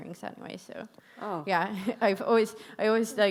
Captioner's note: chuckles